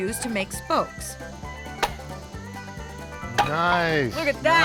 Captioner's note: pound